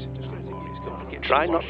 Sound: phone beeps

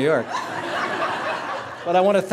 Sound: laughter

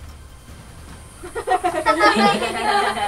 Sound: yelling

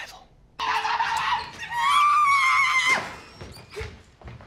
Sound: whispered; TROY screaming

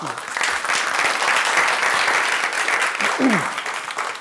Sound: audience applauds

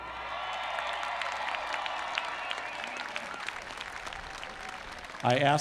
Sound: applause

